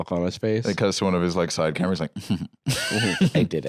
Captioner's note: giggles